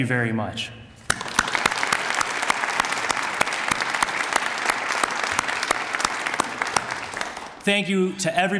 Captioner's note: applause